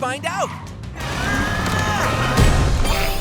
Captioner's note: grunting